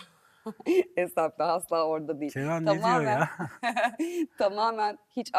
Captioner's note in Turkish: kahkaha